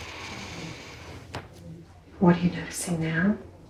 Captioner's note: inhales deeply